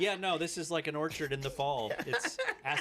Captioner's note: laughing